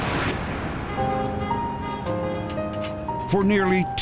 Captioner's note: whoosh; car horn honking